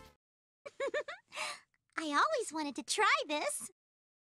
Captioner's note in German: kicher